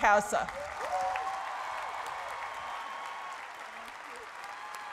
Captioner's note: cheering and applause